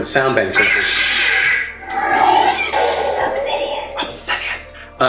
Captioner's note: electronic buzzing